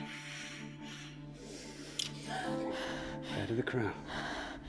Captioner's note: Mabel gasps